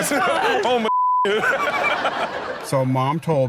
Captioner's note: all laugh